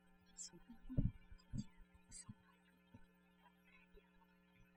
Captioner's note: speaking french